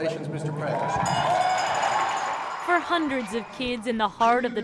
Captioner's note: cheering